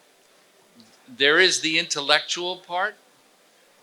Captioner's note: none